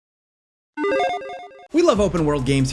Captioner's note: retro gaming beeps